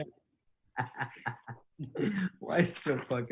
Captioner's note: laughing